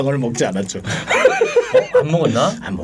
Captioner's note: laughing